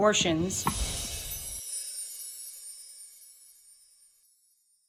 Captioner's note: soft chiming